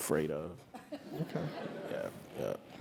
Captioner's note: laugh